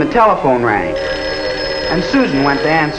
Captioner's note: telephone ringing